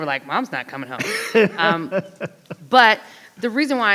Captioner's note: laughs